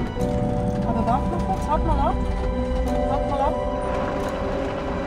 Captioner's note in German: auf Schweizerdeutsch